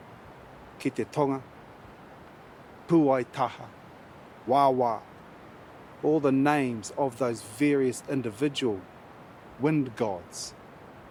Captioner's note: speaks native language